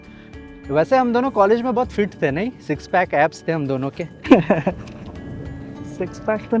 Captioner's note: laughs